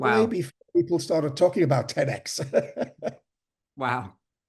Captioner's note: laughs